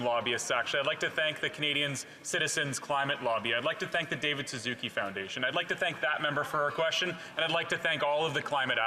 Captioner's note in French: voix de l'interprète